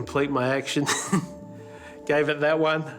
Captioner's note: laughs